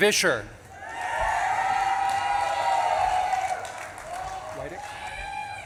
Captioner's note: audience claps and cheers